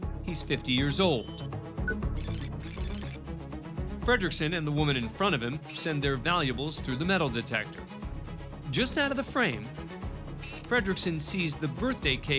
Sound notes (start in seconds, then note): 1.0 computer beeps